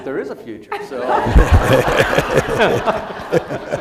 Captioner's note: laughter